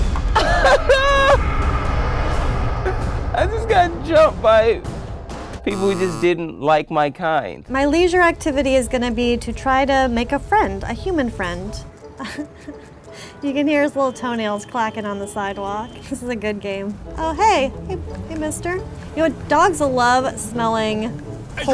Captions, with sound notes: (cry-laughs) I just got jumped by people who just didn't like my kind. (negative buzzer) - My leisure activity (cheerful music) is gonna be to try to make a friend, a human friend. (laughs) You can hear his little toenails clacking on the sidewalk. This is a good game. Oh, hey. Hey mister. You know what, dogs love smelling poles.